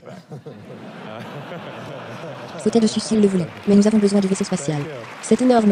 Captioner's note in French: Le public rit et applaudit